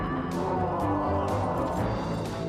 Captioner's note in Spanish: monstruo gruñe